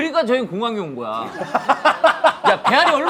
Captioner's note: laughing